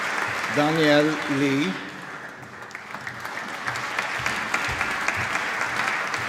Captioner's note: applause